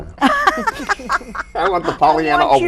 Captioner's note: all laughing